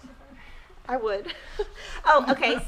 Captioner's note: laughing